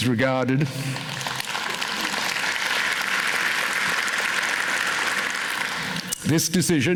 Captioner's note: applause